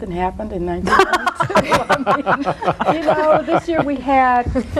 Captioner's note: all laugh